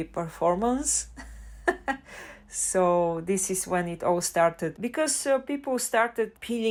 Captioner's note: haha